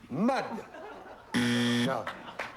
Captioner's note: buzzer